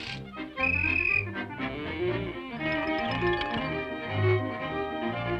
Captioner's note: octopus blowing whistle